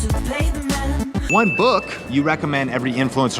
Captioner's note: bell dings